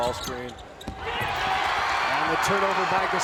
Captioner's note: crowd cheers